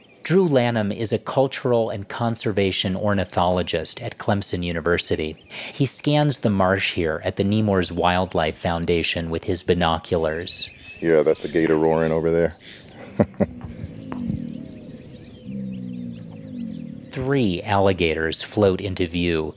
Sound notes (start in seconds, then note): 17.6 alligator roaring